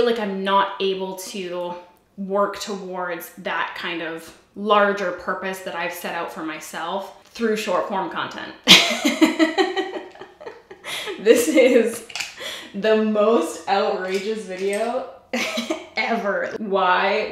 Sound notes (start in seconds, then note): 8.7 laughs